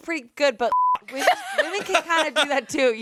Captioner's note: beep